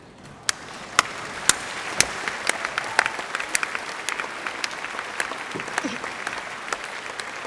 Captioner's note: applause